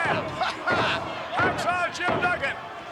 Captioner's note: laughs